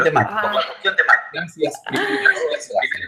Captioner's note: distorted sound